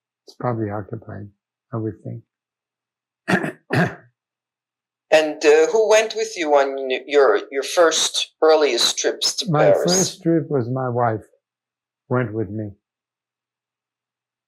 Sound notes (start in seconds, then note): 3.3 clears throat